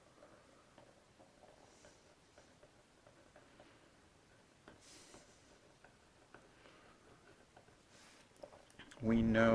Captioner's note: writing